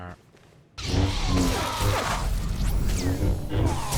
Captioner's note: gunfire